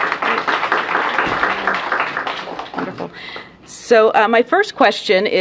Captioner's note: applause